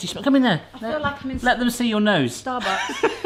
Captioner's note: laughs